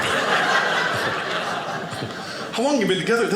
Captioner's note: audience laughing